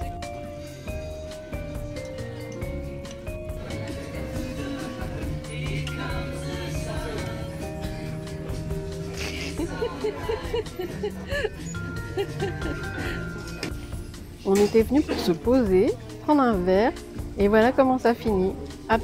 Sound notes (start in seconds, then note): 8.8 laughs